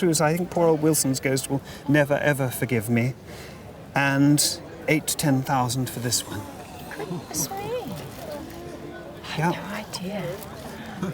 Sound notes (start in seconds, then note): 5.9 crowd gasps